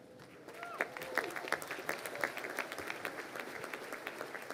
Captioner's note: crowd applauding